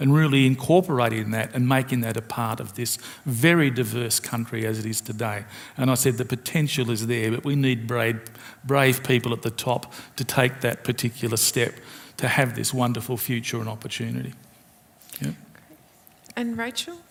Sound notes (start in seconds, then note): none